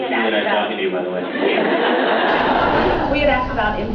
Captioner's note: laughs